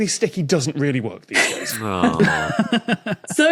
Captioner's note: laugh